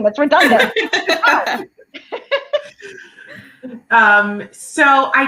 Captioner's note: laughter